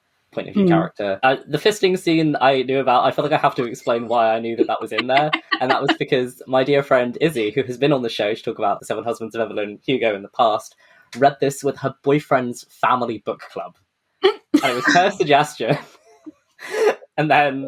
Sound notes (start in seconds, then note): 3.1 laughs; 14.5 laughs